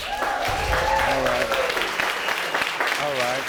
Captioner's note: audience cheering